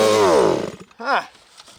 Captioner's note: engine stops